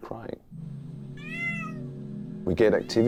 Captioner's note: recording of cat meowing playing